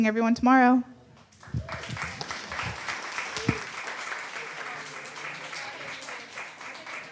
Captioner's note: audience applause